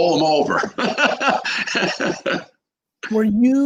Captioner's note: laughing